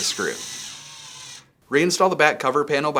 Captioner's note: screwdriver whirs